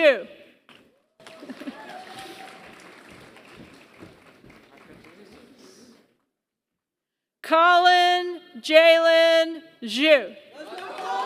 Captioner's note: applause; applause